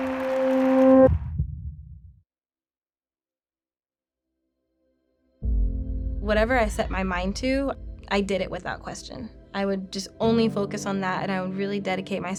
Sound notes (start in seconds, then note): 1.0 heart beats; 5.3 soft music